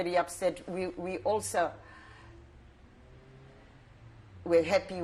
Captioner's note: pauses for 3 seconds